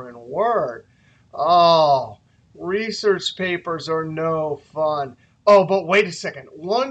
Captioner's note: moans